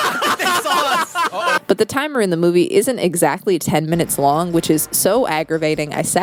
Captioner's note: laughing